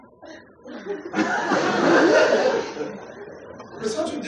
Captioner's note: laughter